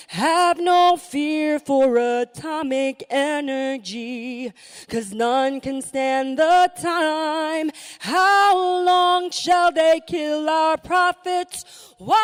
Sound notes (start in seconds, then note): none